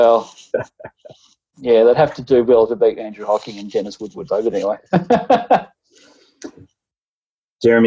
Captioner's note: laughing